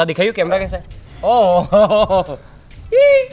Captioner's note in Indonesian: Tertawa